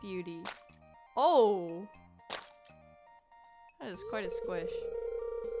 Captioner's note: squish